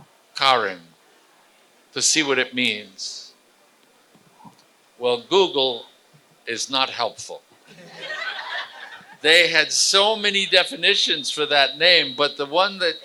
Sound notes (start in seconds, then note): 7.6 laughter